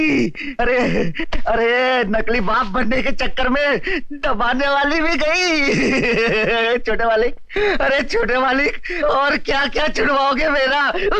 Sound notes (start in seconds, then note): 5.6 short Laugh